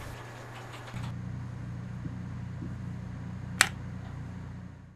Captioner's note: phone clicks